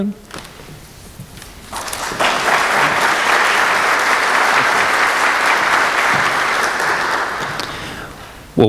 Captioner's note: applause